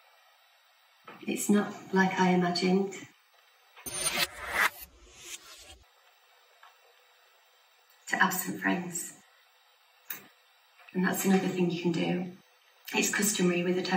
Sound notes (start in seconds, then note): 3.8 distorted sound accompanies flashback